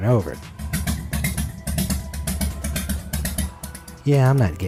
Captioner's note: engine sputtering